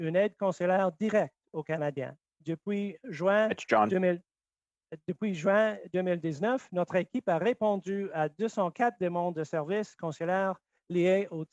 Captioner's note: speaking French